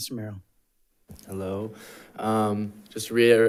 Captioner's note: none